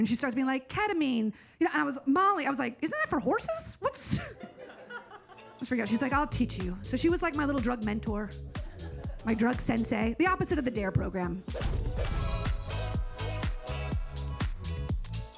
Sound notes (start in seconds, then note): 4.2 audience laughs; 11.8 upbeat music